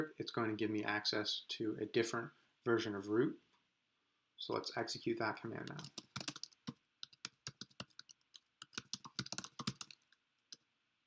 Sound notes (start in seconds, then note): 6.6 keyboard clicks